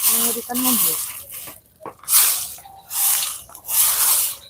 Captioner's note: sweeping